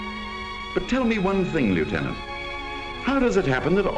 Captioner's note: voiceover